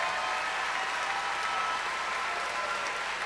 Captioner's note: cheers and applause